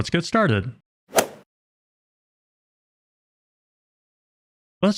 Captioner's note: golf ball hit sound